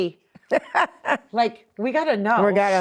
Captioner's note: laughing